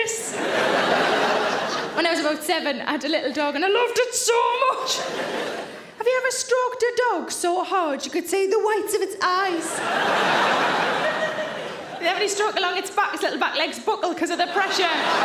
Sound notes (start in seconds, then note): 0.1 audience laughing; 9.6 audience laughing